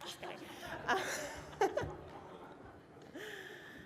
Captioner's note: laughing